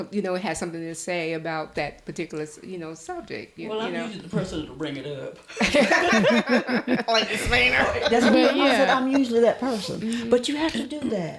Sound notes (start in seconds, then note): 5.5 laughter